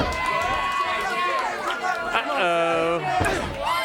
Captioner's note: crowd chatter; crowd cheering